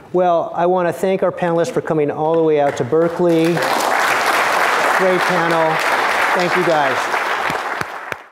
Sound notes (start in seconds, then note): 3.0 applause